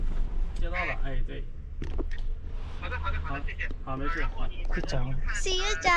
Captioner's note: speaking with the driver over the phone